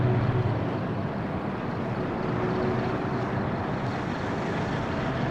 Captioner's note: car engine thrumming